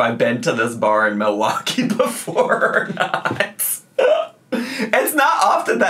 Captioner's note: laughs